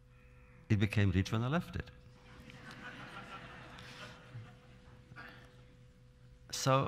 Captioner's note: laughter